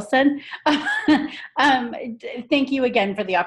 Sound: laughing

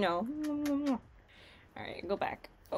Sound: kisses

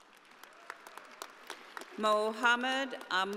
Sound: audience applauding

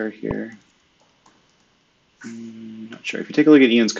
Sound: computer keyboard clicking

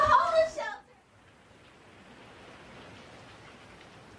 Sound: rain pattering

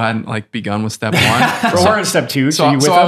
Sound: Fr. Innocent laughs

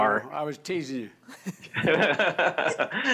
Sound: laughs

